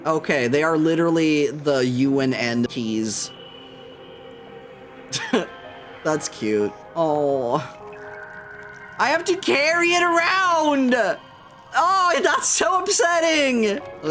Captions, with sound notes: Okay, they are literally the U and N keys. [laughs] That's cute. Oh. I have to carry it around! Oh, that's so upsetting!